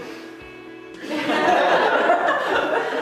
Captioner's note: laughter